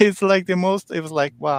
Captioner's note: chuckles